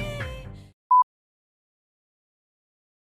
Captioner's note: beep